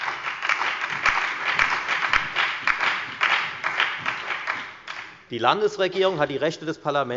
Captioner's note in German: Beifall bei der FDP, der SPD und der LINKEN